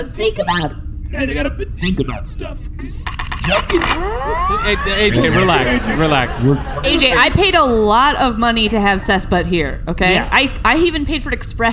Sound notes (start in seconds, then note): 0.0 voice sliding up; 3.0 racks rifle